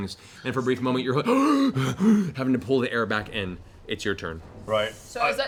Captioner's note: gasps; gasping